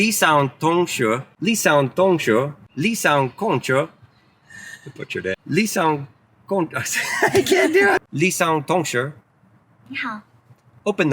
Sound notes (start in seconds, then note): 0.1 speaking in Chinese; 6.0 speaking in Chinese; 6.9 laughs; 8.3 speaking in Chinese; 10.0 car speaks in Chinese